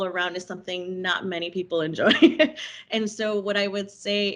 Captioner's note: chuckling